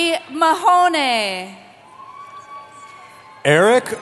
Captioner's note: cheering